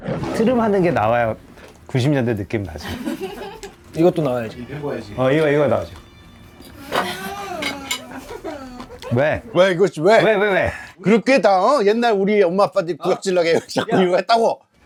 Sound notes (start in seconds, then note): 6.6 entire crew groans